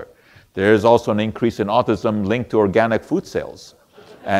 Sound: audience laughter

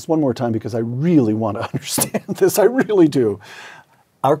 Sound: laugh

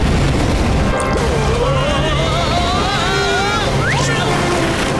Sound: screaming; vomiting

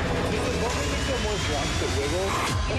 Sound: indistinct chatter

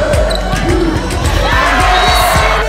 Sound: cheering

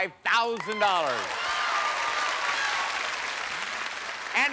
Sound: cheers and applause

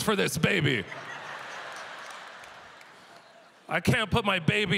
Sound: audience laughter

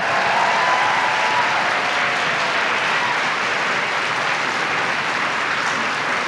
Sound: applause

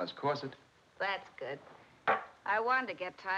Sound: glass clatters

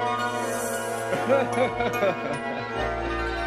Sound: laughing

